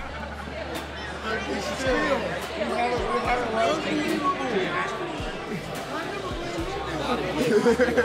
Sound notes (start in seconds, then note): 0.0 people chattering